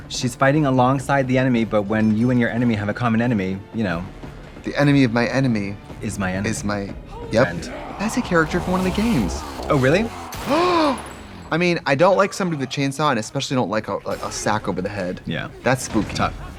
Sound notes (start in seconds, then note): 10.6 Trixie gasps